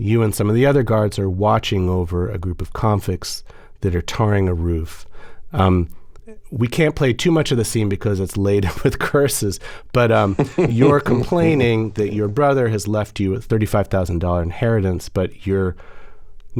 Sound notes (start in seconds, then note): 10.2 laughter